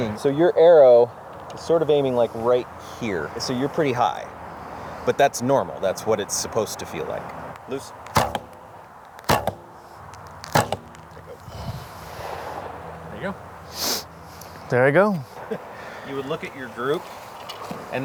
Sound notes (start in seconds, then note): 8.0 arrow thumps; 13.7 sniffs